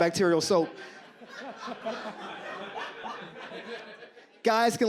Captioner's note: audience laughs